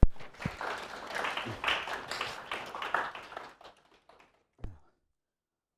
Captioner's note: crowd clapping